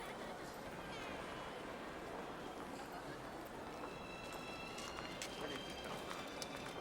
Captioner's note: people chattering indistinctly